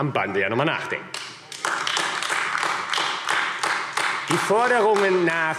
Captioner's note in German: Beifall AfD